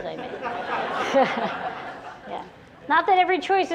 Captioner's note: laughter